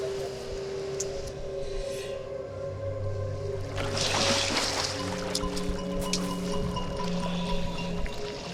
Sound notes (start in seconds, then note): 1.1 inhales oxygen; 4.5 suspenseful music